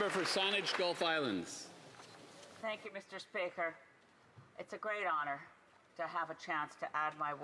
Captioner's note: applause